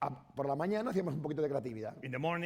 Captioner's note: speaking spanish